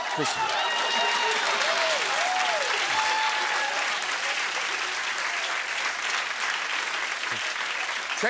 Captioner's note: cheers and applause